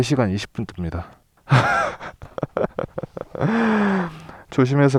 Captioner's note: laughs